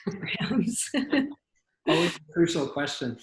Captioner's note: laughs